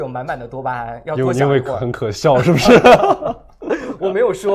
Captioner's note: laughs